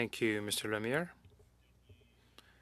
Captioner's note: speaking French